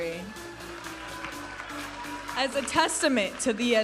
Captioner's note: audience applauding and cheering